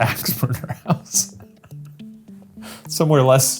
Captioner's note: laughing